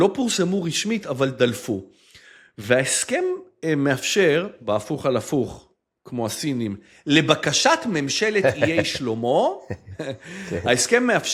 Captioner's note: laughter